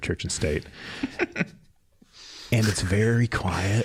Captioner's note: laughing